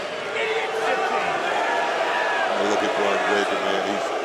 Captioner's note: crowd boos